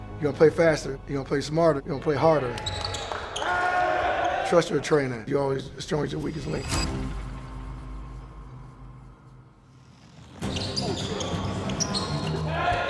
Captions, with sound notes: You get stronger, now you got more confidence- you got more confidence. You gonna play faster, you gonna play smarter, you gonna play harder. (players cheering) Trust your trainer. You only as strong as your weakest link. (intense music)